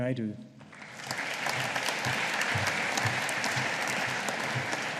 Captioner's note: audience applauding